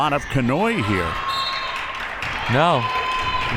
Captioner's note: whistle